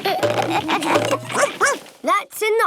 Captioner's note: all laugh; barks